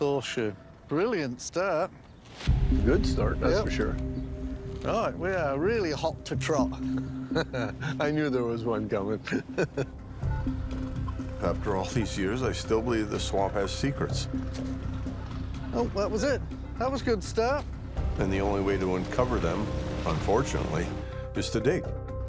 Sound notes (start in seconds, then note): 6.8 laughs